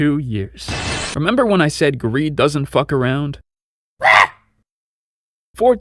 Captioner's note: scream